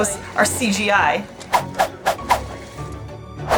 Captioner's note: background music; sound effects; background music